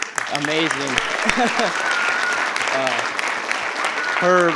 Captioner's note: attendees applauding; attendees cheering